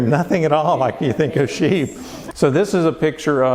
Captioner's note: laughter